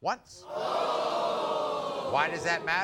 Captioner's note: audience vocalizing